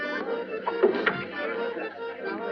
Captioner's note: door opens